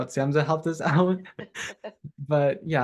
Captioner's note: chuckle